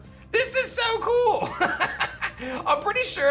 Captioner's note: laughs